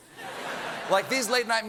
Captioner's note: laughter